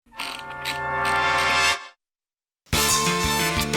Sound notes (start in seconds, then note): 0.2 wheel clicks